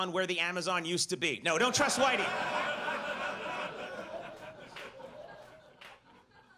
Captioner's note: audience laughs